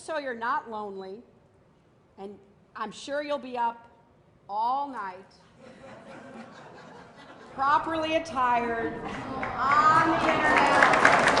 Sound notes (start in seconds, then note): 5.5 laughter; 9.3 applause